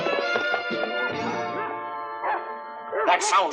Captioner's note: Belle barking